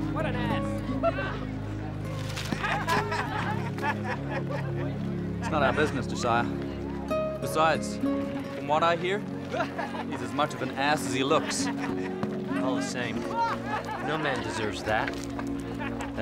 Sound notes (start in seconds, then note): 2.4 laughing